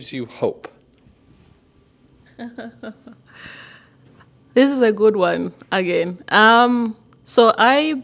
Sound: laughter

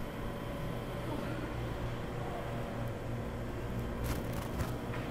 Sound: Shenise sighs

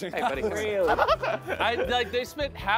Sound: contestant laughing

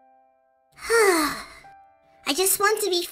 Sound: Cinnamon Bun sighs

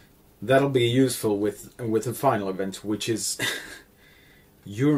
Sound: heh

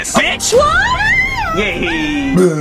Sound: Rosalina screaming; evil laughter

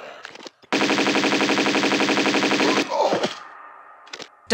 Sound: bratatatatatatatata

